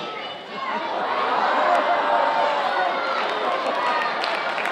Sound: audience exclaiming

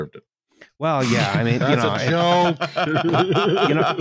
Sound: laughter

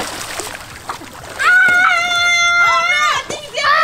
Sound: screams

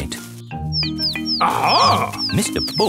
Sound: chirping

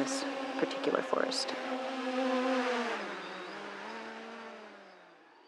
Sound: sound of drone flying

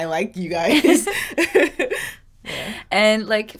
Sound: both laughing

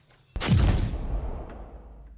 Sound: picture snap

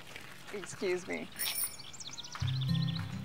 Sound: bike bell rings; light hearted music; birds chirping

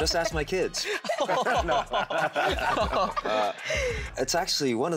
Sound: all laughing

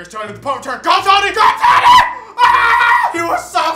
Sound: screams

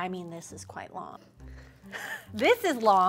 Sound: laughter

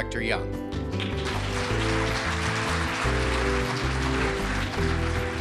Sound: audience clapping

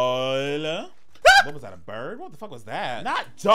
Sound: screaming

